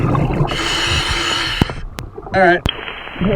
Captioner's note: water burbling; regulating hissing